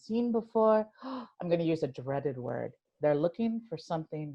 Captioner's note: gasp